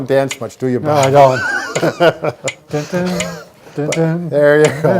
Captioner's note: laughs; hums